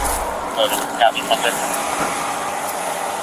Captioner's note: radio chatter